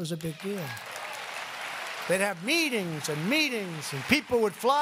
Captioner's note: applause